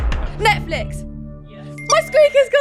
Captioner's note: squeak fail